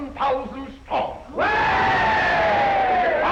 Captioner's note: crowd cheering